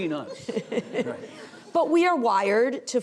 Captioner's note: audience laughing